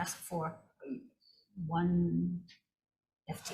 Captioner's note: none